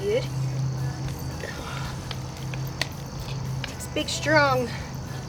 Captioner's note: insects buzzing, upbeat rock music playing